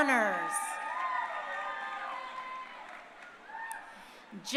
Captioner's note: crowd cheering